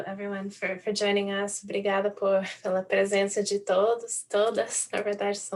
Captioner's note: in Portuguese